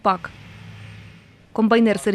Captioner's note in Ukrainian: Шум агротехніки